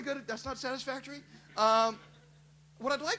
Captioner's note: laughter